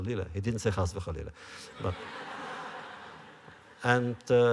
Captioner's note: laughter